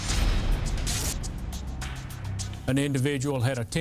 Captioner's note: electricity buzzing